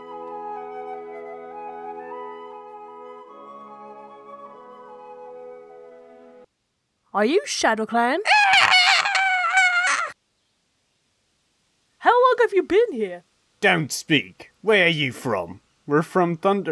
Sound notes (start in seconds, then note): 7.3 English accent; 8.2 screech